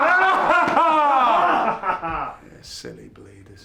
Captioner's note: laughing